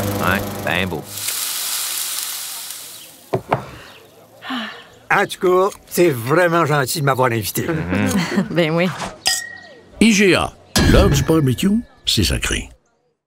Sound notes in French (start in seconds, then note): 1.0 son de cuisson